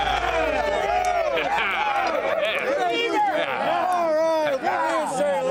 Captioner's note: men cheering; men continue cheering